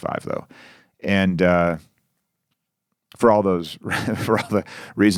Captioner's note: chuckles